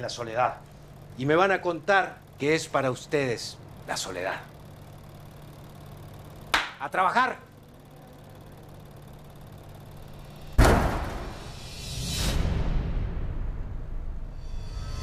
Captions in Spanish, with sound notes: en la soledad y me van a contar qué es para ustedes la soledad. [Grita] ¡A trabajar! [Portazo]